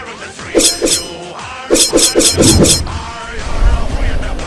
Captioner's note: rapier slashes